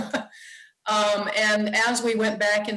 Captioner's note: laughs